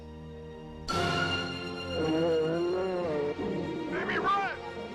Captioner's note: sudden intense music; bear roaring